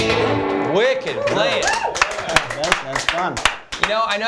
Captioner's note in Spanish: aplausos